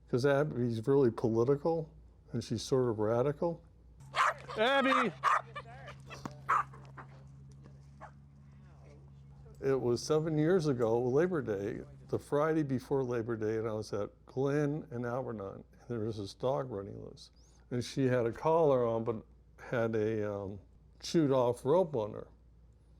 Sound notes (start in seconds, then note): 4.1 dogs barking; 6.1 ball bouncing